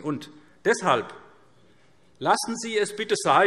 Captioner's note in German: none